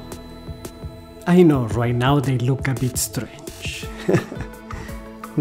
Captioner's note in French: rires